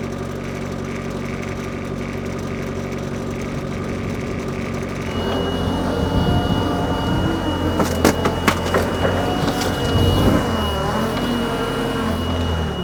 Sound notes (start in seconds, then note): 5.7 fork truck motor humming; 8.9 protection mats crunching